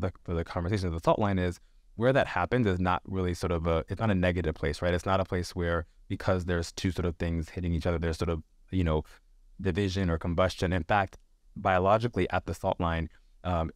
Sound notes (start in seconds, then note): none